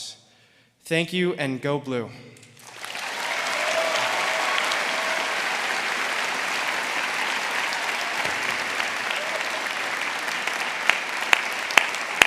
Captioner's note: applause